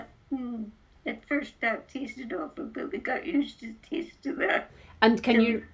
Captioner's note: laughs